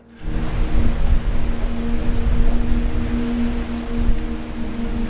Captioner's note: wind howling